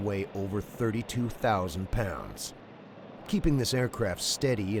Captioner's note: voiceover